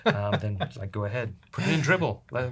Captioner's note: laughter